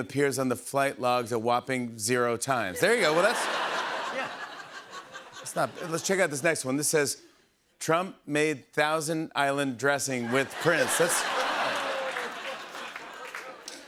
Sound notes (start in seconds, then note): 2.9 laughter; 12.1 laughter, applause